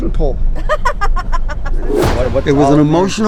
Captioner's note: person laughing